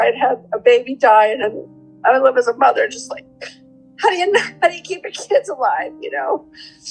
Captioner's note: sobbing sound